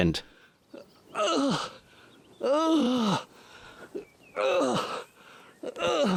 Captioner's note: grunting